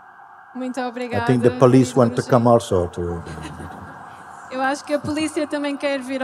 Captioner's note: laughter